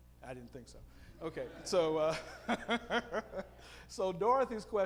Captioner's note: audience laughing; laughing